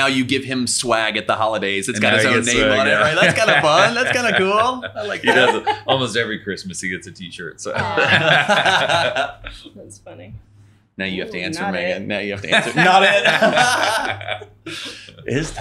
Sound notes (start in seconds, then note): 7.8 everyone laughing; 12.4 laughing